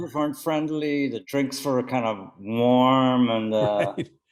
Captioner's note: laughing